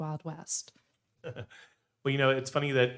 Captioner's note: laughing